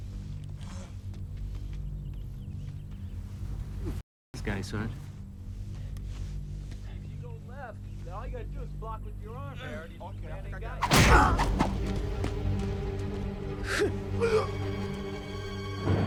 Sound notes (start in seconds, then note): 10.8 stick thuds; 11.0 Knox grunts; 12.4 tense music